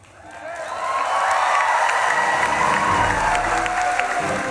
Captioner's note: audience claps and cheers; upbeat dignified music